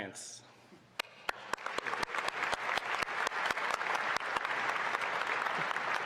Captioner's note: applause